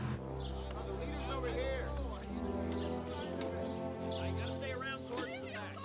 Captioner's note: moody orchestral music; background chatter